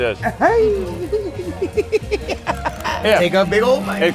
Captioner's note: laugh